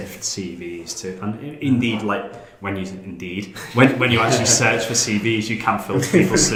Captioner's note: laughing